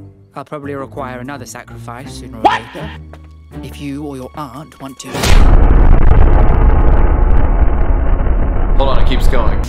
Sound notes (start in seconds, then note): 5.2 boom